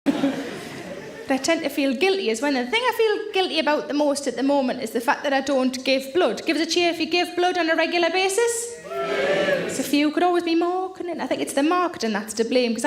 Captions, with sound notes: - But I tend to feel guilty is when the thing I feel guilty about the most at the moment is the fact that I don't give blood. Give us a cheer if you give blood on a regular basis. (audience cheers) It's a few, could always be more, couldn't it? I think it's the marketing that's to blame